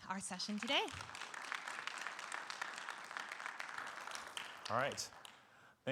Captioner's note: audience applauding